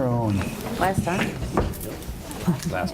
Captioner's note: muttering